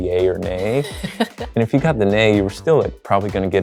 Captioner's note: chuckles